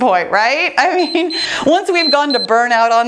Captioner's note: timer beeps